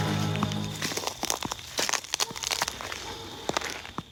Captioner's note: footsteps